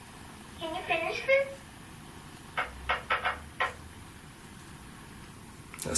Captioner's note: tapping